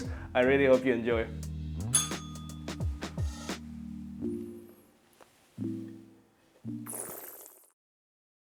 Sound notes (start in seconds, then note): 1.9 bell rings; 6.8 slurps